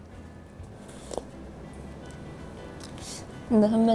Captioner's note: slurp